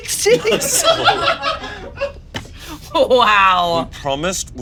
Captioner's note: all laughing